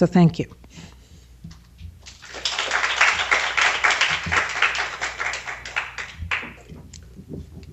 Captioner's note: applause